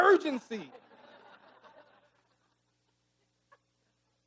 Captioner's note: audience laughing